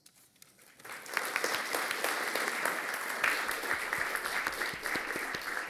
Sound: applause

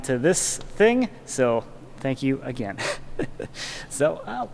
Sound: laughs

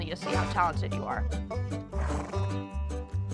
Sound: horse snorts

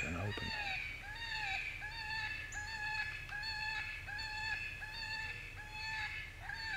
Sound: eastern Cottontail animal call

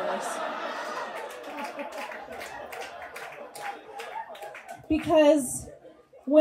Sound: audience laughs

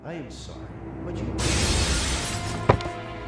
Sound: crash

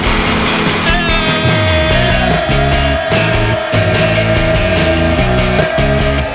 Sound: yelling

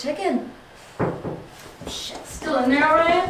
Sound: knock on the door

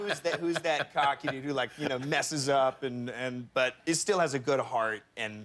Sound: laughter

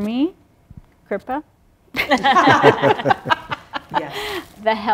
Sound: laughter

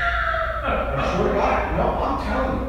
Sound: all laughing

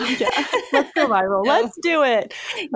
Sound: chuckles

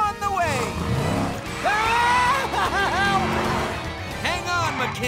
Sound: screaming

